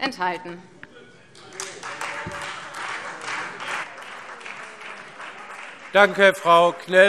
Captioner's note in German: Beifall Freie Demokraten